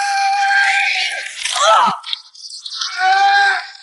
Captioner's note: yelling; screaming